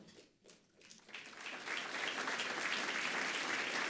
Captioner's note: audience applauds